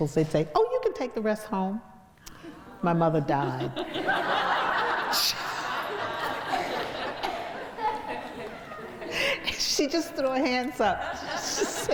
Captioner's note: crowd laughs